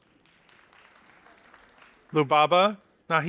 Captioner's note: audience applauding